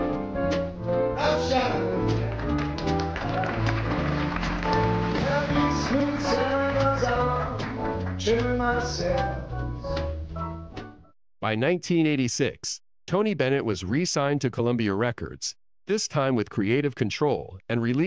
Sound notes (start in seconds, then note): 3.3 audience applauding